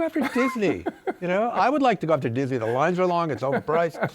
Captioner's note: laughs